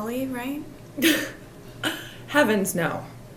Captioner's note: Angelica chuckles